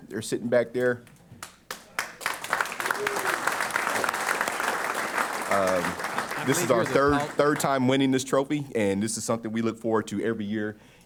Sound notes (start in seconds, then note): 1.4 applause